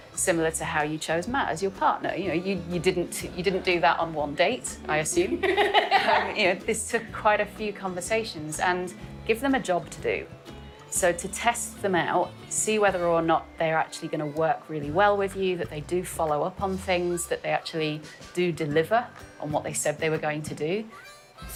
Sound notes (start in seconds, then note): 5.2 laughing